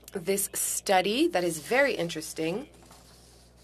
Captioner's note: speaking French